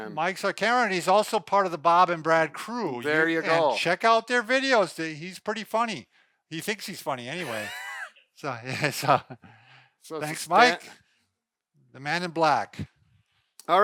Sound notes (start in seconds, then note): 7.4 laughing